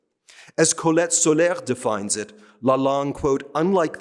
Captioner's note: speaking french